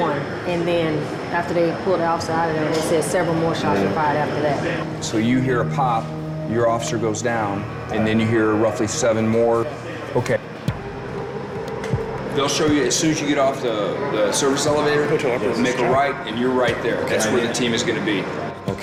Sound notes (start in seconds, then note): none